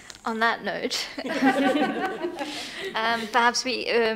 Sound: everyone laughing

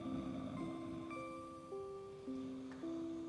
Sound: snoring; soft music

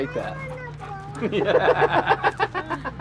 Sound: laughter

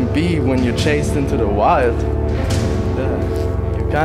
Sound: sniggers

